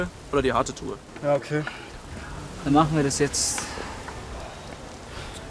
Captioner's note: boys agreeing